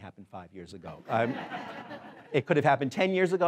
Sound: laughing

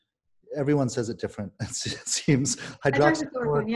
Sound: laughing

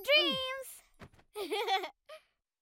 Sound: laughing

